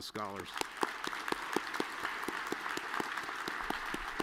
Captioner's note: all clapping